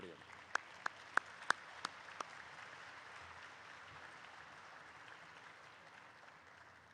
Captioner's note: applause erupts